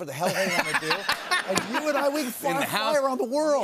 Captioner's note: laughs